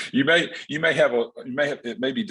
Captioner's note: laughs